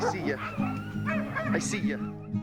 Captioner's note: barking